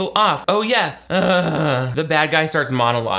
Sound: groans

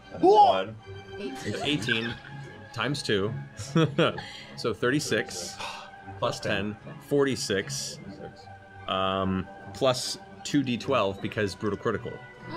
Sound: laughs

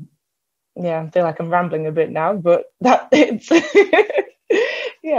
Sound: laughs

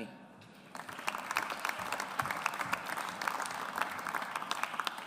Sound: audience applauds

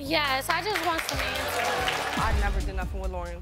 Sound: audience claps and cheers

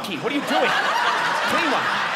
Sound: audience laughing

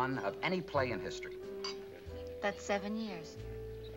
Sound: clinks

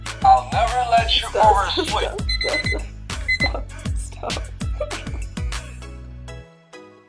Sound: laughter

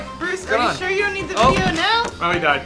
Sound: thud

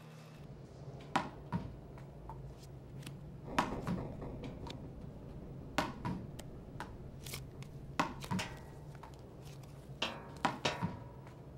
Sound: ball bouncing and pipes rattling

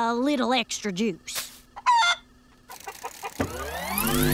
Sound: clucking

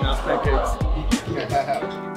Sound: laughing in background

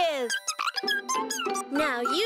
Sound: chirping

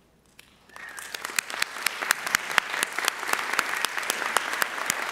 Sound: audience applauding

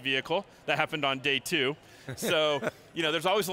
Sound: laughing

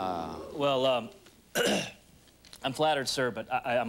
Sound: clearing throat

